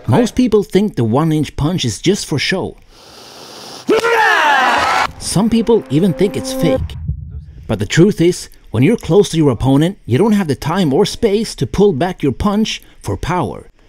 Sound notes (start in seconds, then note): 3.8 screams